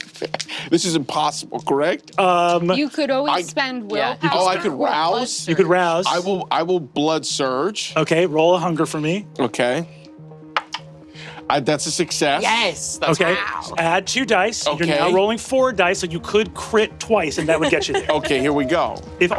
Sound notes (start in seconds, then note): 0.0 laughing; 0.1 chuckles; 10.3 dramatic electronic music; 10.5 die taps table; 17.3 laughing